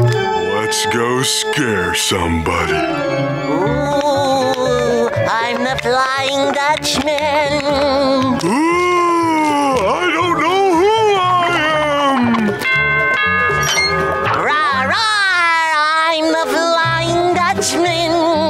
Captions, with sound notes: Let's go scare somebody. Oooo! I'm a flying goblin! Oooo! I don't know who I am! [doorbell ringing] Rawr rawr! I'm the flying Dutchman!